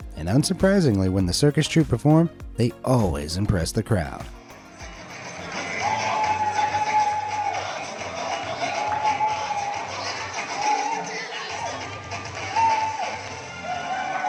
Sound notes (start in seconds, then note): 4.7 crowd cheering; 5.1 upbeat music